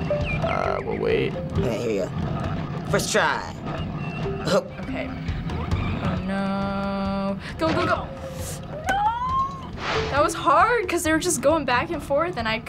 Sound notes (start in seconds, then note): 3.8 chuckles; 8.6 squealing